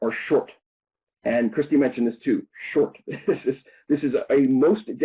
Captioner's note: chuckles